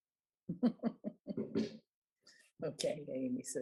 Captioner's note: laughing